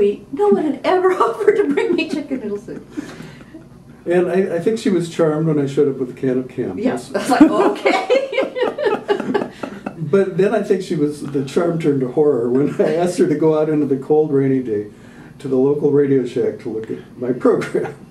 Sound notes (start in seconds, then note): 3.9 laughter; 10.6 mixed laughter